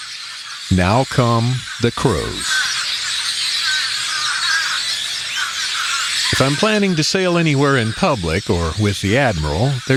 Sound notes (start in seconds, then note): 2.7 SFX: Crows and grackles